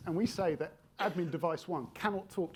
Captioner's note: attendee coughing